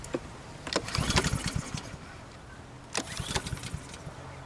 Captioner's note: engine rumbling